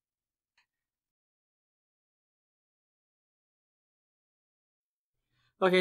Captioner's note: pause